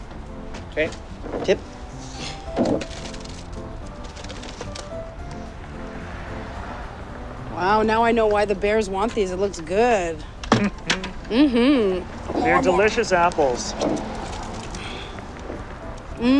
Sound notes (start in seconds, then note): 2.4 apples dropping into machine; 2.5 upbeat music